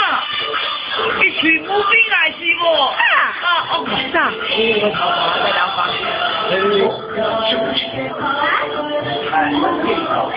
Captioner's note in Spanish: esta murmurando, murmurando